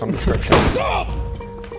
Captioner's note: bang!